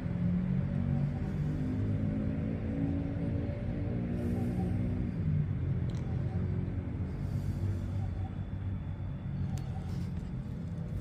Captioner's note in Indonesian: suara mesin motor